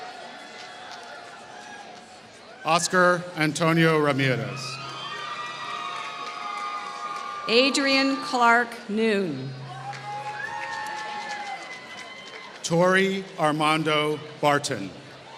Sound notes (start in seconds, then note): 4.8 applause